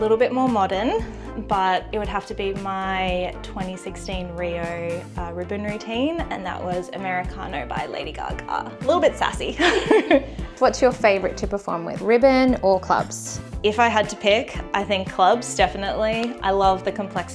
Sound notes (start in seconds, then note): 9.6 laughs